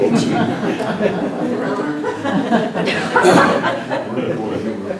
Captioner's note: laughter